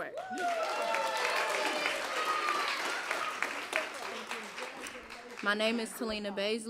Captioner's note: applause